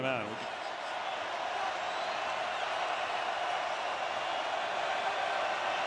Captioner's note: crowd cheering